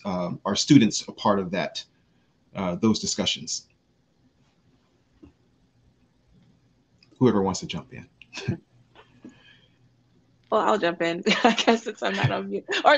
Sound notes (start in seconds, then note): 11.2 laughs